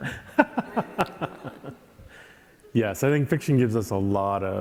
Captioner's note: laughing